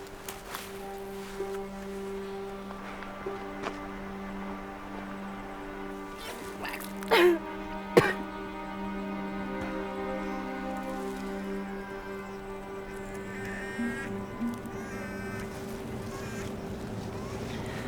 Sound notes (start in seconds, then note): 7.9 vomiting; 7.9 spitting; 11.7 baby crying